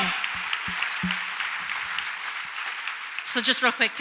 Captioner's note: audience applauds